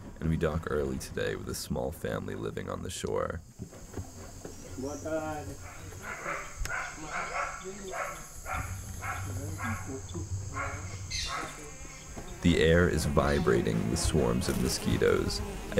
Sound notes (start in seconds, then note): 5.0 speaking foreign language